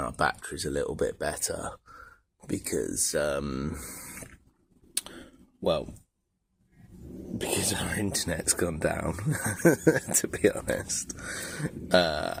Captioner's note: laughter